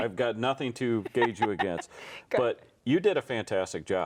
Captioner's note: laughing